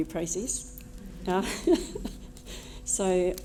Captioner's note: laughter